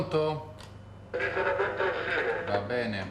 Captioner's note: radio